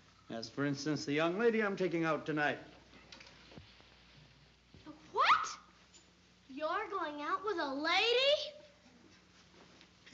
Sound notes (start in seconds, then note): none